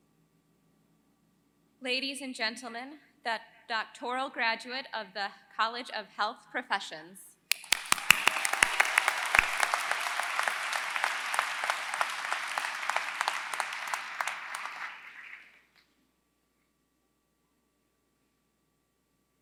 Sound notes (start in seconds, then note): 7.5 applause